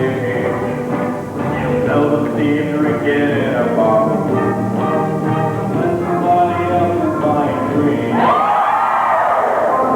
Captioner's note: cheering